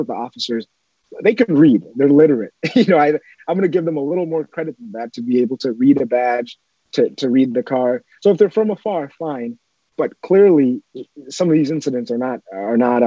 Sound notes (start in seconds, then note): 2.6 laughs